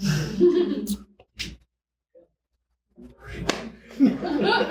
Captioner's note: audience laughing